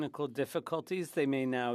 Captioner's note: speaking French